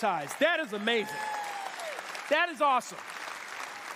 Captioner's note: cheers and applause